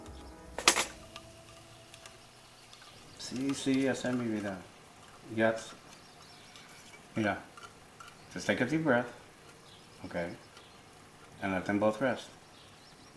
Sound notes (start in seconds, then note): 0.4 toast pops up